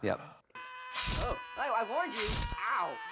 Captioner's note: apple screaming